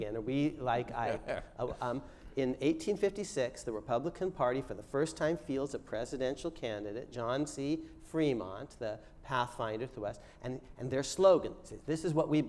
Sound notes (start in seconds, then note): none